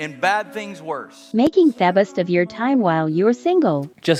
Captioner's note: voiceover